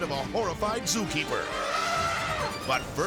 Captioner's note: elephant trumpeting